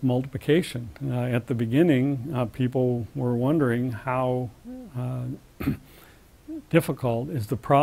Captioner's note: cough